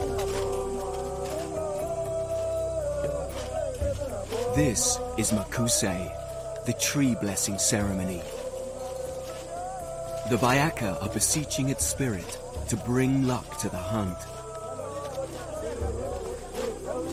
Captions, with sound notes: The Bayaka are beseeching its spirit to bring luck to the hunt. (men chanting in foreign language) They've lived in harmony with the forest for thousands of years and know they won't cause the tree any serious damage.